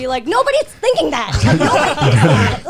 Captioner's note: all laughing